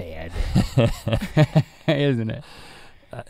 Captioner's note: both chuckles